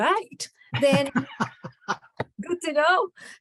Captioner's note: laughter